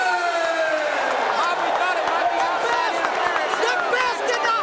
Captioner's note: audience cheering